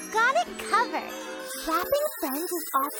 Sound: none

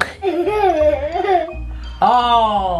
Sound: laughs

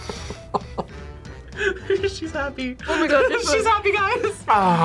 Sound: laughs

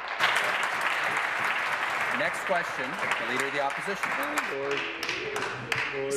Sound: applause

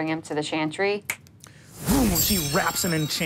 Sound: air whooshing

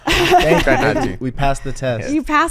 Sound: all laughing

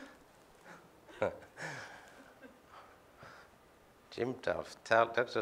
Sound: laughs

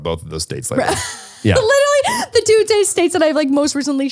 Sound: laughs

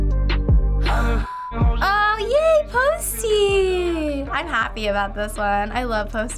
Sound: gasps

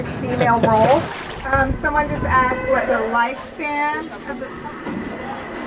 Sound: whale's sound

